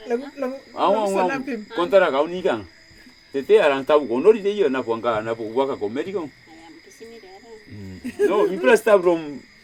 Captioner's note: repeats story in Nasioi